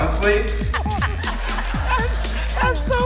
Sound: laughing in background

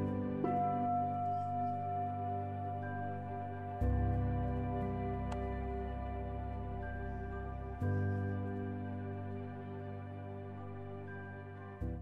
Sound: bell chimes

